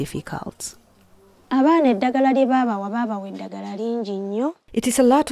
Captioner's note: speaking in foreign language